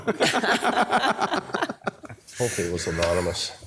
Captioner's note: everyone laughing